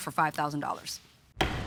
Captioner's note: gavel bangs